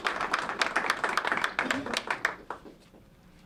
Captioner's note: applause